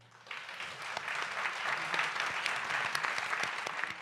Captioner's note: applause